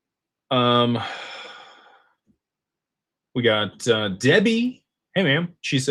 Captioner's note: sighs